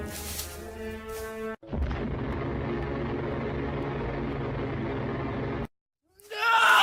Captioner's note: monster running